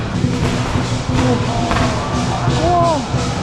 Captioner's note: firework